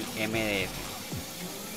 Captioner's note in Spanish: laser trabajando